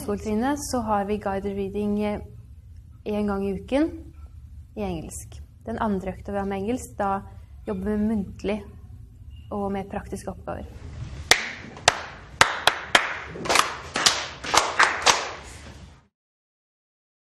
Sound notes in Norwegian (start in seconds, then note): 11.2 Elever og lærer klapper en rytme